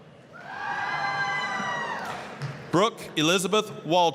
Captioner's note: applause, cheering